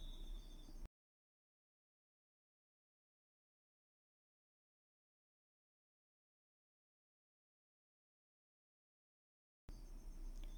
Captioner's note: no sound